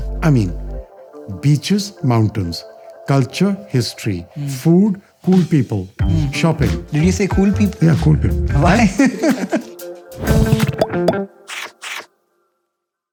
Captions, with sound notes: I mean, beaches, mountains, culture, history, food, cool people, shopping. Did you say "cool people"? -Why? -[laughter]